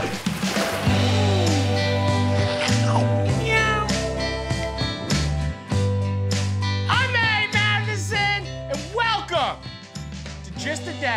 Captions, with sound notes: (upbeat music) (cat meows) I'm Matty Matheson, and welcome to, Just a Dash.